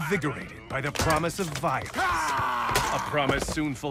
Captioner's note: screams as Two-Face